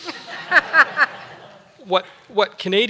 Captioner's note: laughter